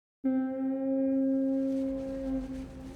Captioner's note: ship's horn blows in distance